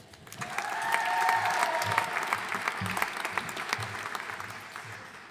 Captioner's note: audience cheering and applauding